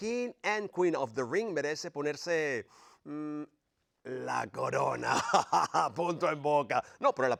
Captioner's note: laugh